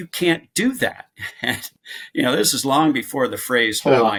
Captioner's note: chuckles